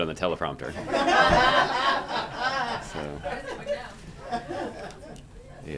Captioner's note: laughter